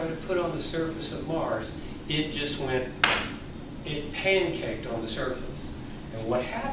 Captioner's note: smack